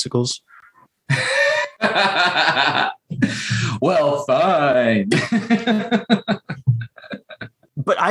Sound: laughter

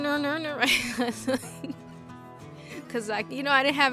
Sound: laughs

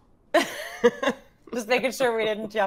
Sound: Fairuza laughs

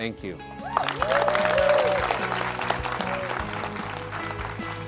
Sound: audience applause

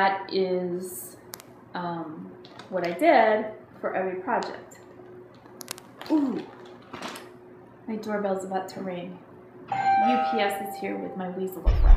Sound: doorbell ringing

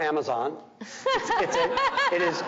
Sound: audience laughing

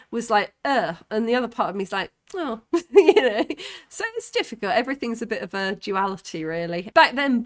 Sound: laughing

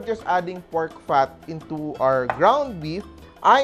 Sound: knock

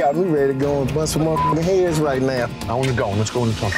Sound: beep

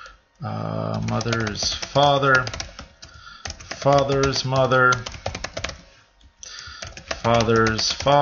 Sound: typing

